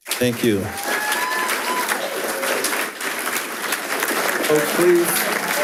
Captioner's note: attendees cheers and applauds